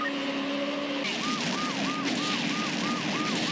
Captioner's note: police sirens; explosions